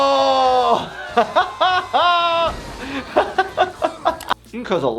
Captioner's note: laughing